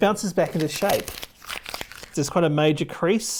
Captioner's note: paper crinkling